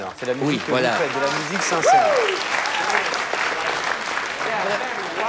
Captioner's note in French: aplaudissement